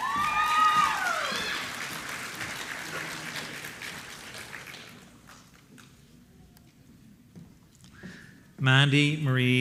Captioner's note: applause